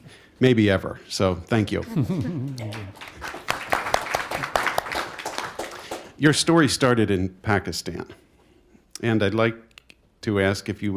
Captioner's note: applause